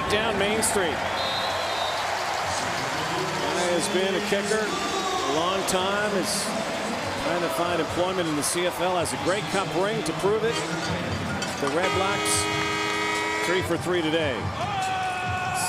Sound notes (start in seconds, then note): 4.6 cheering